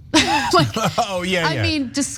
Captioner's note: laugh